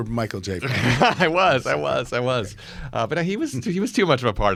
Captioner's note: laughs